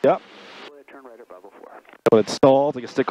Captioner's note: radio murmuring